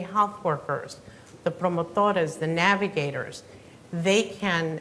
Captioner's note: speaking Spanish